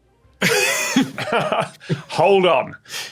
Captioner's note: both laughing